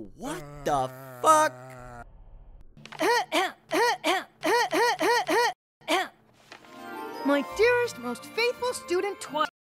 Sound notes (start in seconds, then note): 3.0 clears throat; 4.4 clears throat x2; 4.4 rapid throat action